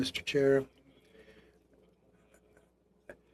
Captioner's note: speaking French